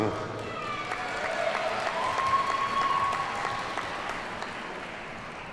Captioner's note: audience cheers and applauds